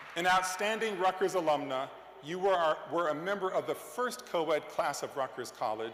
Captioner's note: cheers and applause